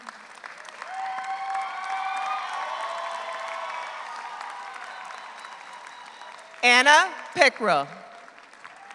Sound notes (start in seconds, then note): 0.0 audience applauds; 0.7 audience cheers